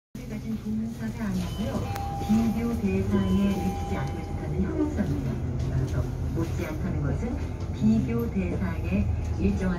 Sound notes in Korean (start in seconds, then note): 1.8 하차벨 소리